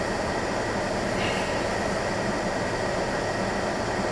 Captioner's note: clears throat